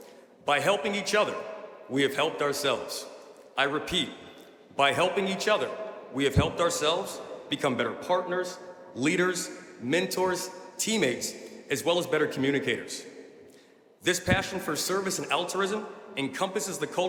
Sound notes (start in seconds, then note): none